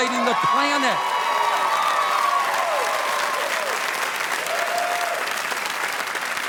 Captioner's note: audience applauding; crowd cheering